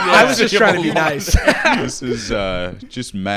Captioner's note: all laughing